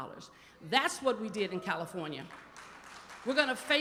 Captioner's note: applause